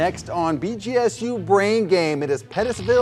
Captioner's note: upbeat music; electricity buzzing